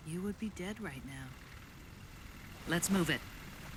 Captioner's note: helicopters hovering